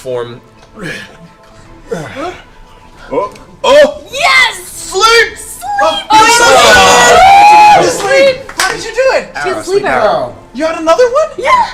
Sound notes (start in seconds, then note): 5.8 cheering